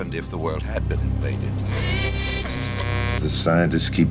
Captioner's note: radio static buzzing